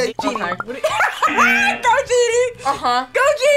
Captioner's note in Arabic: يضحك